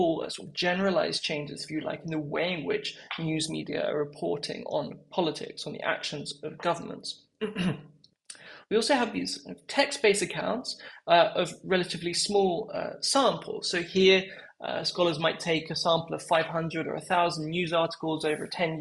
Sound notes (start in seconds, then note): 7.4 cough